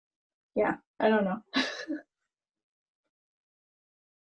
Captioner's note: laughing